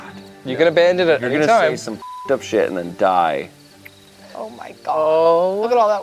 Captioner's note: beeps